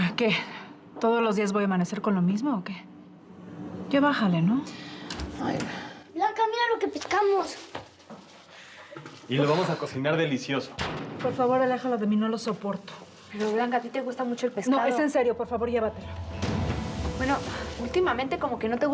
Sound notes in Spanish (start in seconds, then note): 5.0 ruido al entrar